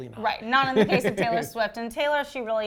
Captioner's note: laughs loudly